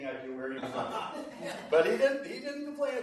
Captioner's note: laughter